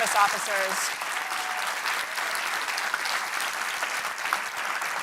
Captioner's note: audience and panel applauding